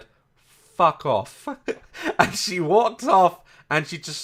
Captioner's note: chuckle